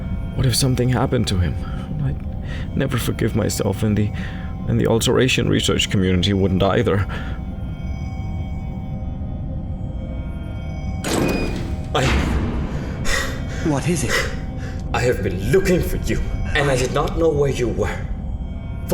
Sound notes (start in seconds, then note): 11.0 door opening; 12.9 Cor pants distressingly